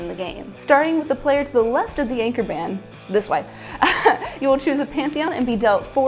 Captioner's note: uncomfortable laughter